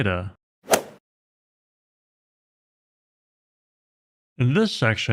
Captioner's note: golf ball hit sound effect